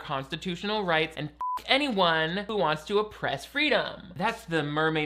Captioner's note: beep